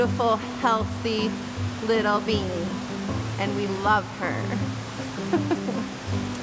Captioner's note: laughing